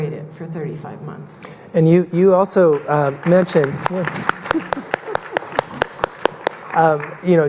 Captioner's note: audience clapping